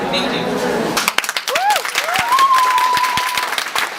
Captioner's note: clap Clap